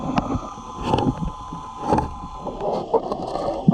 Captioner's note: tool scraping